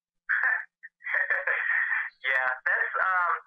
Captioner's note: laughing